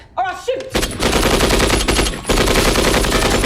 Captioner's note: gun firing